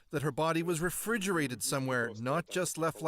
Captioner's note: speaking Foreign Language